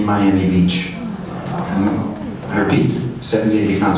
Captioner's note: audience exclaims